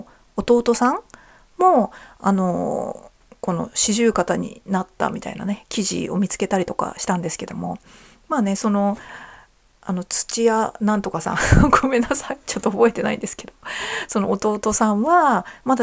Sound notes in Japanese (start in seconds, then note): 11.1 笑い